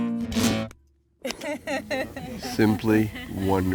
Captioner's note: laughing